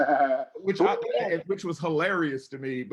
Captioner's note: laughing